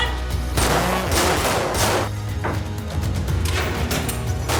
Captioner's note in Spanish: Disparos; Disparos